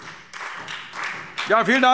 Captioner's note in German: Beifall SPD